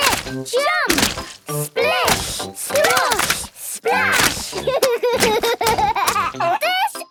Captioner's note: laughs